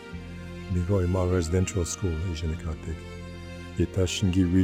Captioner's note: speaking in Ojibwe language